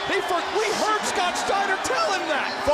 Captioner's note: crowd chatter